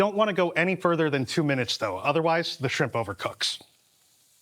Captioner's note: pan sizzling